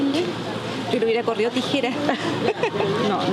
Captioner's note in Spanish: risas